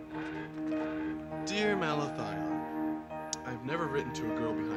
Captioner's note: voiceover